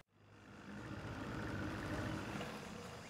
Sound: more boat noises

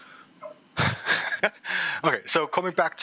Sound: laughs nervously

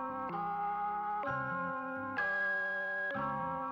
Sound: none

